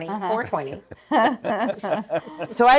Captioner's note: laughing